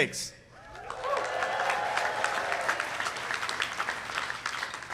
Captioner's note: audience applauding